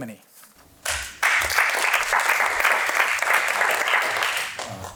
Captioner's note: applause